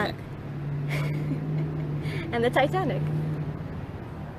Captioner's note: giggles